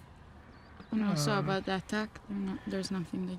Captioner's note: speaking foreign language